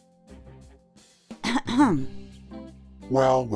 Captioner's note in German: Hüstel